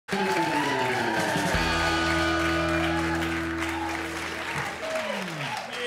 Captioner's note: crowd cheers and applauds